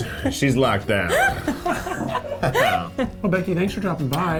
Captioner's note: laughing